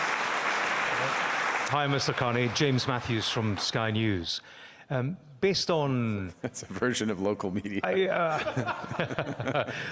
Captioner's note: applause